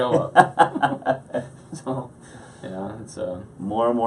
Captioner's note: laughing